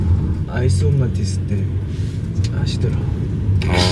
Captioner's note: the fan chant